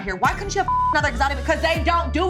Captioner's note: beep